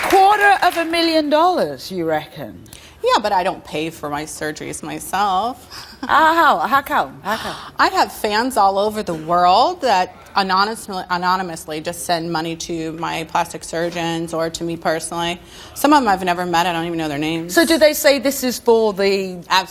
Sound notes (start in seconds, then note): 5.9 laughs